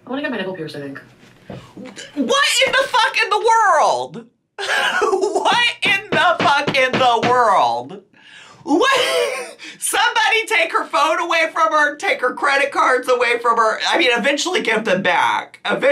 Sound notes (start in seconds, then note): 8.8 laughs